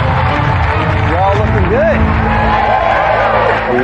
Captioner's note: dramatic music; cheering and applause; competitors cheer